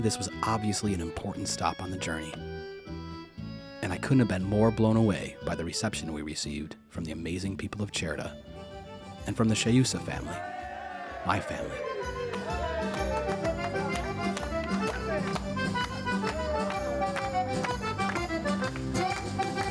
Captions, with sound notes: So for me, this was obviously an important stop on the journey... and I couldn't have been more blown away by the reception we received from the amazing people of Cerda and from the Sceusa family... My family. (crowd cheering) (upbeat music)